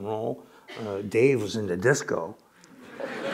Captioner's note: laughter